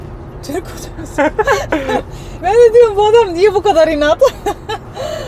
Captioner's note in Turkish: kahkaha